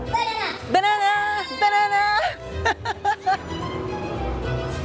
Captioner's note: laughs